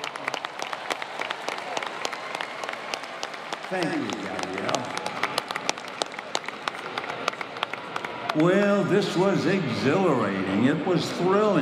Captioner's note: applause